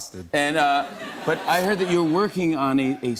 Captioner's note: laughter